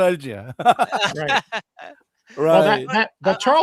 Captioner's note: laughter